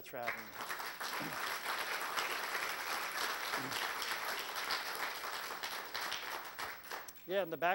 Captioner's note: applause